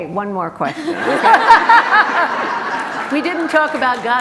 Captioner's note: group laughter